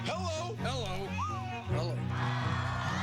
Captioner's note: whistles